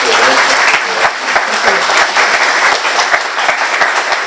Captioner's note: applause